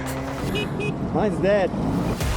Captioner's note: music stops abruptly, Honking sound